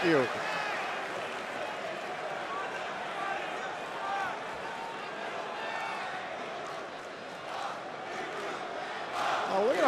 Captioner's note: crowd cheering